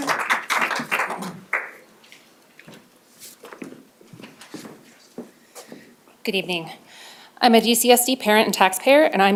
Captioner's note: applause